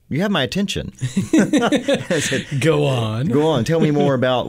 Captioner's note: laughter